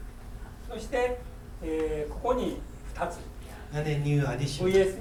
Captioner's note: speaking in foreign language